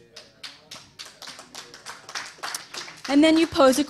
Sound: applause

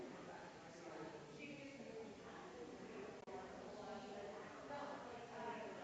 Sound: people chattering distantly continues

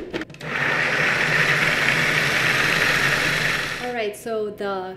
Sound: food processor whirring

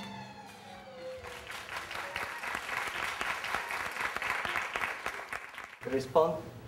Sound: applause

